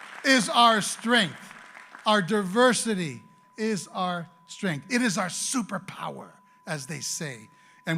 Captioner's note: applause